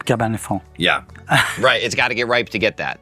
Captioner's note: laughing